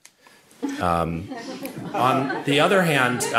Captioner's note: audience laughing